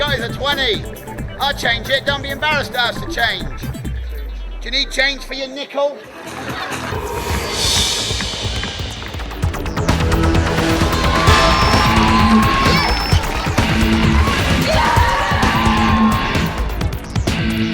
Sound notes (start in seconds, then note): 6.0 audience laughing; 9.3 thrilling music; 12.0 upbeat music